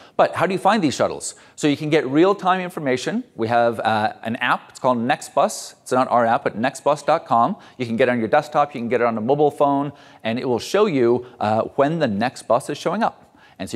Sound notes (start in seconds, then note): none